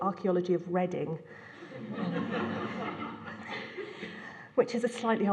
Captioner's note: laughter